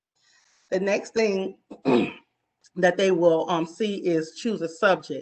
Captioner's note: clears throat